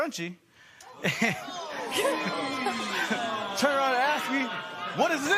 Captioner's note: spectators "Ooh"